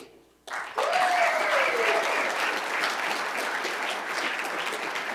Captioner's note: cheers and applause